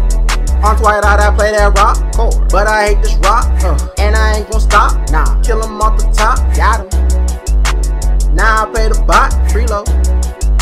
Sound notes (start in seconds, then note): 2.2 ugh